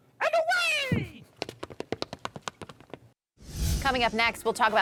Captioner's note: footsteps pattering